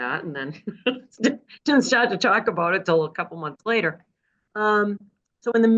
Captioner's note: laugh